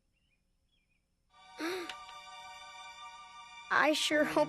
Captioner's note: gasping